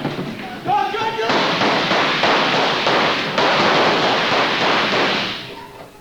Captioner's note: officers shouting; more gunfire